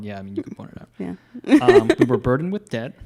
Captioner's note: laughs